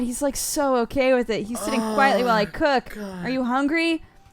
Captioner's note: cry